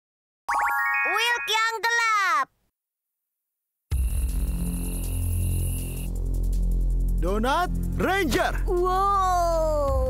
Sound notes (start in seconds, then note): 0.2 soothing sound; 4.0 upbeat music; 8.8 screams